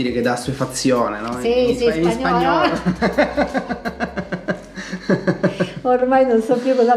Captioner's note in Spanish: risas